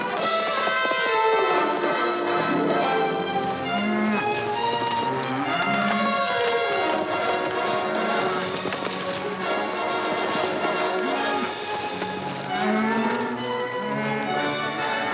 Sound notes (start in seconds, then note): 0.1 suspenseful music; 3.9 cows mooing; 8.5 horse galloping; 12.4 cows mooing